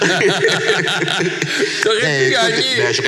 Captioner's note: laughs